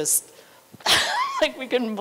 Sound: laughter

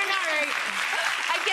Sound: audience applause

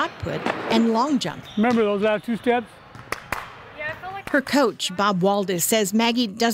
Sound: clap clap

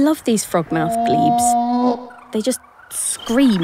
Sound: creature screaming

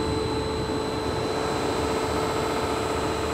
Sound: machine whirrs

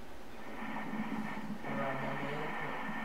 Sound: sound of the heartbeat

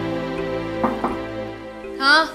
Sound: door knocks

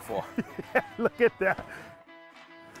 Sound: laughs

